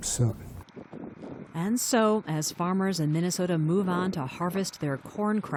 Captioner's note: voice-over